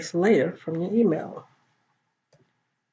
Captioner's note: Arabic; Vietnamese